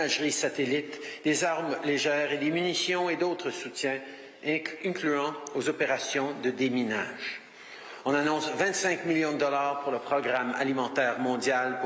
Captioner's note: speaking French